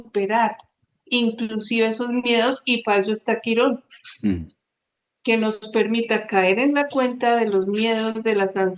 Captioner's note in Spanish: carraspeo